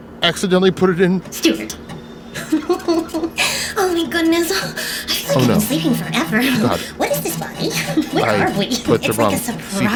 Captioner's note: laughs